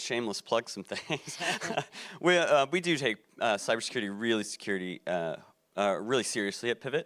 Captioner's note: laughs